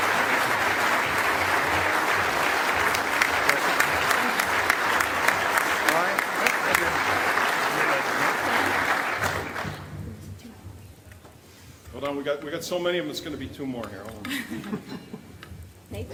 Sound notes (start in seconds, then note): 0.0 applause continues; 0.0 applause